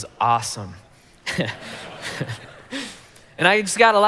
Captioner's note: congregation laughing